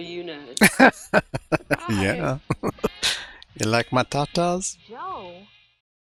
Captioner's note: laughing